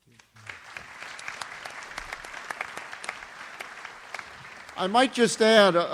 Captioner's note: audience applauds